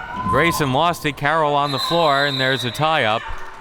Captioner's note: whistle tweeting